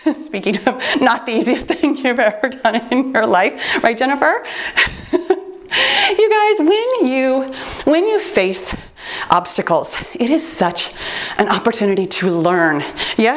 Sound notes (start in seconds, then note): 4.8 chuckling; 7.0 timer beeps